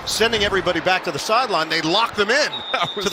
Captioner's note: whistle blowing